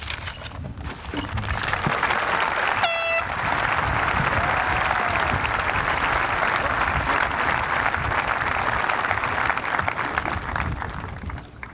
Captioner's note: applause